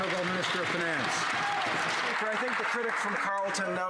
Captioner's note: some Applause